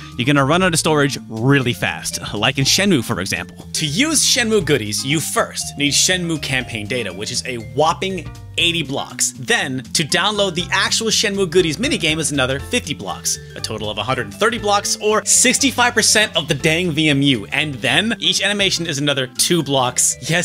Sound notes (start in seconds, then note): none